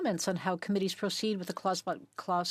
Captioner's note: speaking French